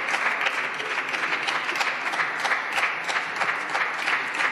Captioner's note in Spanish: Aplausos